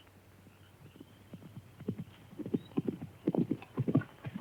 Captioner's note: horse galloping